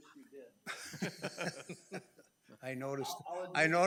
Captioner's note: committee members laugh